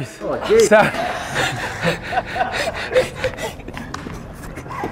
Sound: all laughing

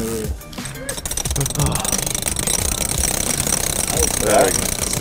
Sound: wheel rattling

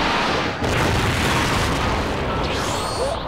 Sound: Michael Bay explosion

